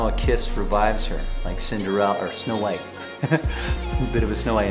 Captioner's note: chuckles